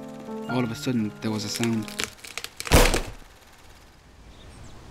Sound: branch snaps

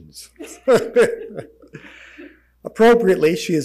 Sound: laughing

